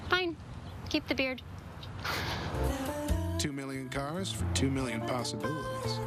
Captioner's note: laugh